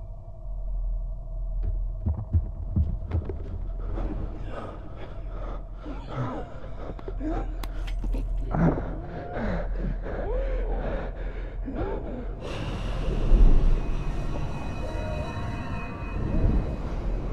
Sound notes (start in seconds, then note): 3.5 heavy, panicked breathing; 4.0 Karn groans; 12.4 breath blows